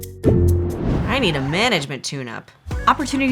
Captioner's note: record scratch